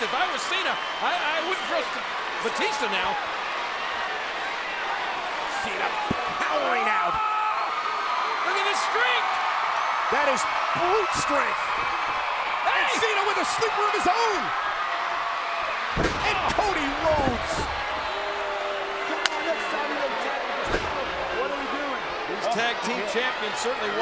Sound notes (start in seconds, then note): 3.8 crowd cheering; 6.9 John Cena yelling; 15.9 blow thudding; 17.9 crowd cheering; 19.1 hands clapping